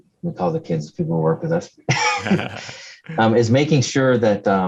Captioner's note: laughs